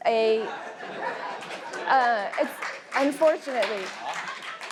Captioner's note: audience laughs